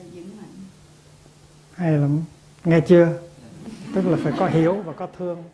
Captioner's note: audience laughs